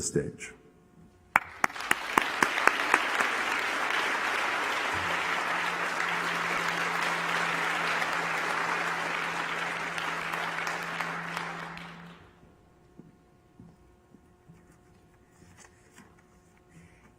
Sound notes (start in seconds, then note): 5.1 applause